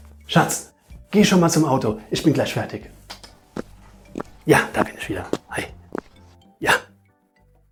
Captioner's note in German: kuss kuss